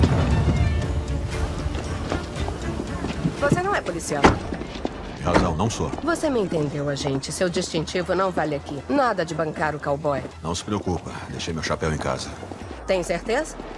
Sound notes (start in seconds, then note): 1.1 indistinct chatter